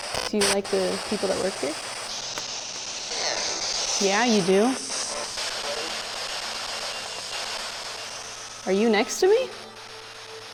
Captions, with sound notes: Do you like the people that work here? [spirit box voice] Yeah you do? [spirit box voice] [EMF beeping] Are you next to me?